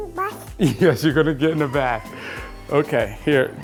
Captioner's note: laughs